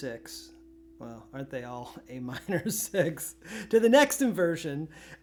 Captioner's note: laughter